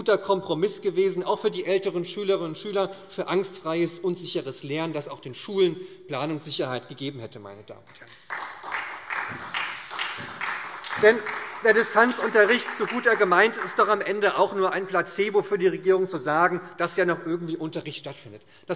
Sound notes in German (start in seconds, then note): 7.9 Beifall SPD